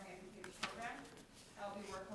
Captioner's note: speaking faintly